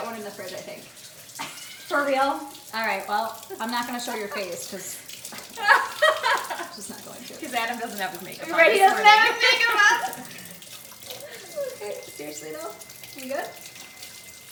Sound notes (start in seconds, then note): 11.5 laughter